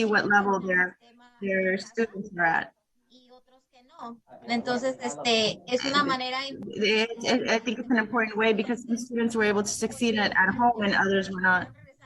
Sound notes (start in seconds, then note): 3.7 speaking in Spanish